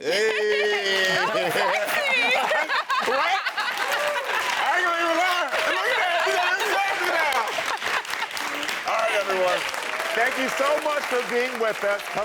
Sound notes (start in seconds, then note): 0.2 laughs; 6.9 audience applauding